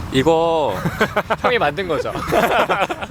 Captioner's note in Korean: 하하